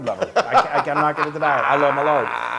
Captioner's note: laugh